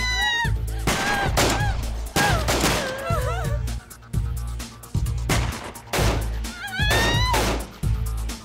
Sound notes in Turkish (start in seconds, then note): 0.8 Silah sesleri ve kadın çığlıkları